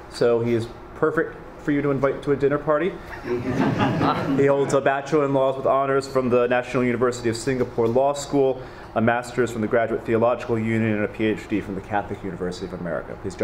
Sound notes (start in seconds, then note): 3.0 many laughing